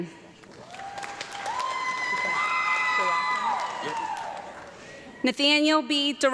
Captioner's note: audience clapping and cheering